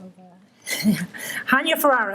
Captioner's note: laughter